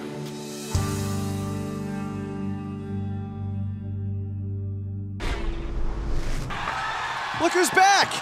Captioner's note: crowd cheering